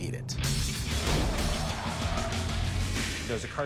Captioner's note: tires screeching